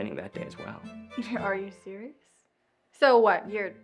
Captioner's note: chuckles